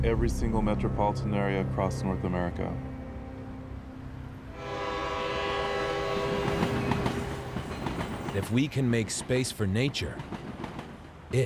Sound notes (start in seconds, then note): 4.4 train horn